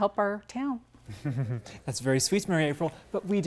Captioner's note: Tristan chuckles